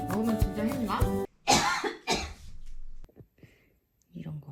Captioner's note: cough, cough/ I don't think so